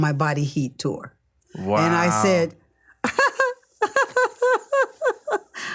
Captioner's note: laughs